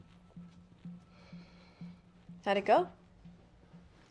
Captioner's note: sighs